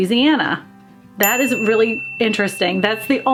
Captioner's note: bell dings